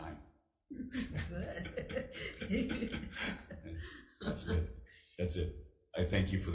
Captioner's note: chuckling